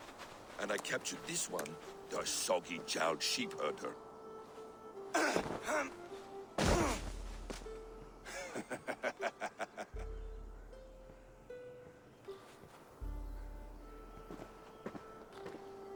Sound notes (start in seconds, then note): 8.2 laughs